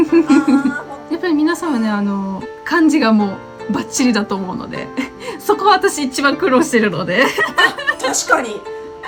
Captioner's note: haha